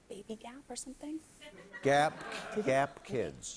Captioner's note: laughter